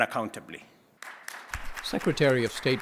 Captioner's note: applause